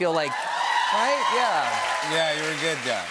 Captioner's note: cheers and applause